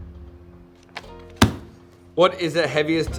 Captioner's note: bangs table